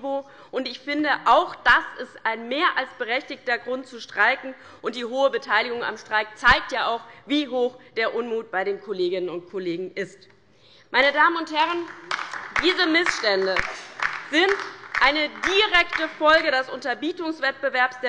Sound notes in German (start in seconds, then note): 11.6 Beifall bei der LINKEN